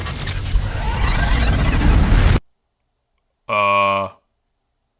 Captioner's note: mysterious interference, static